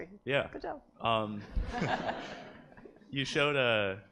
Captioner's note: laughter